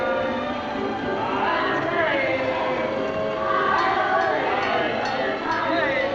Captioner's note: man hawking